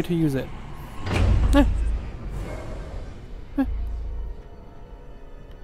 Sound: noises of fear

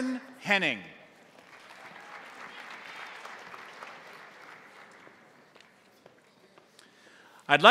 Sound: crowd applauding; crowd cheering

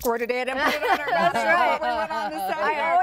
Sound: laughing

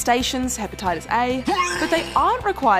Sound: man vomiting

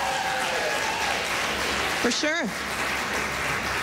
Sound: cheering

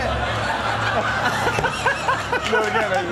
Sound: all laughing

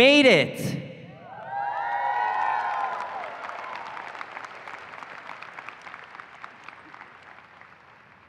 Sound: cheering and applause

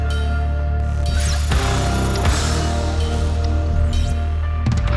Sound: logo bleeping

